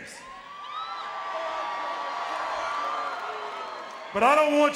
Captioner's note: audience cheering